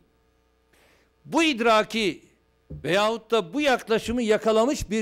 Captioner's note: non-english speech